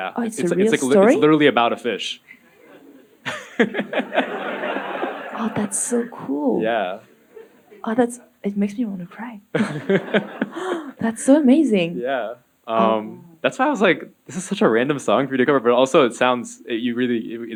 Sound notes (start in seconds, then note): 2.3 laughing; 2.4 audience laughing